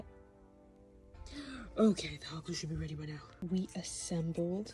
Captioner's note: gasp